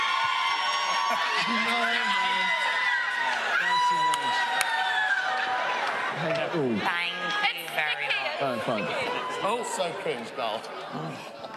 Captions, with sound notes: [indistinct chatter] -Thank you. -Thank you very much. It's sticky. It's sticky. So cringe.